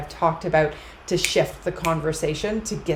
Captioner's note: fingers tapping